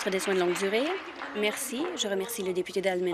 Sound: applause

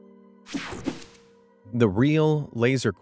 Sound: air whooshing

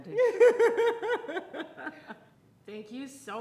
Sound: laughing

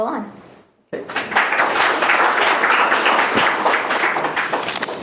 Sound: student applause

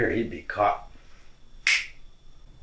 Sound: snap!

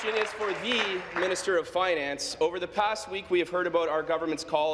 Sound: applause

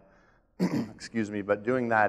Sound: coughs

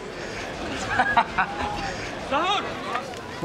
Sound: Zahoor laughs

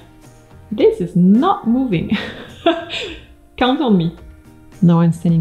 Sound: laughing

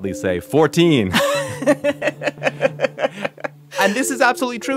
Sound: laughs

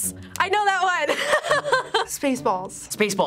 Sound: laughing

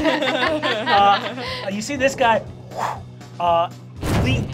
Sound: laughing; whooshes

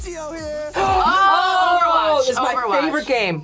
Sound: gasps

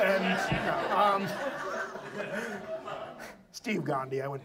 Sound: audience laughs

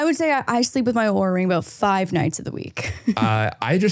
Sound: chuckles

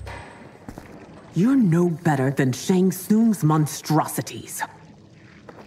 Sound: rain

